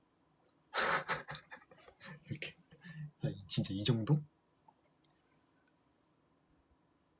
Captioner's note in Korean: 웃음